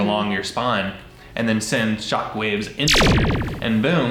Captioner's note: electricity whirring